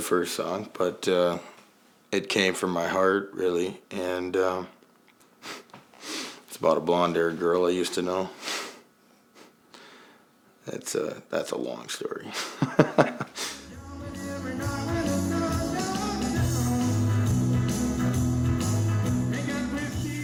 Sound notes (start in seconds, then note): 12.3 chuckles; 13.4 jaunty country music